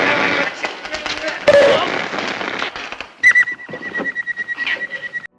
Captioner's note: whistling noise; head conking sound effect